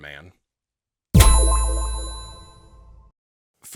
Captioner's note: tone echoing